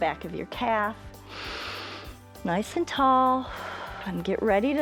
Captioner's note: inhales